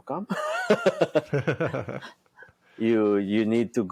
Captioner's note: both laughing